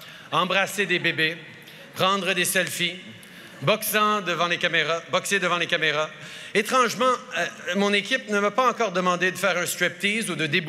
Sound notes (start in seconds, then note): none